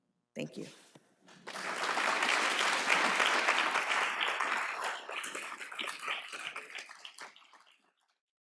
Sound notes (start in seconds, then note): 1.3 applause